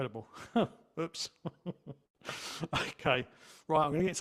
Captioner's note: laughs